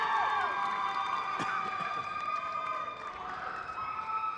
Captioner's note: crowd cheers